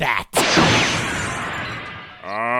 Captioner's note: explosion